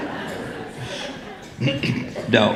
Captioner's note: audience laughing